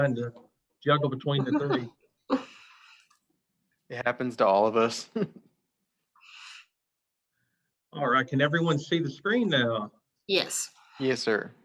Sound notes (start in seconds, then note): 1.3 laughs; 4.9 chuckles